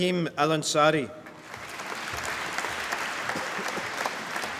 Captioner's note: applause